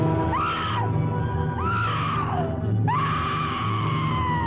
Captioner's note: Pat screaming